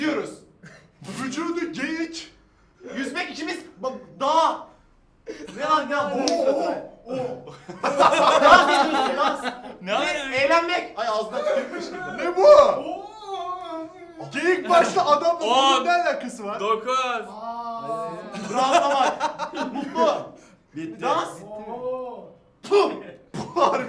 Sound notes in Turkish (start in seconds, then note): 7.1 gülüşmeler